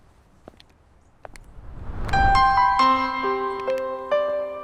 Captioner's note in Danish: whoosh